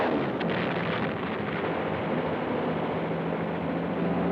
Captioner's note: bombs explode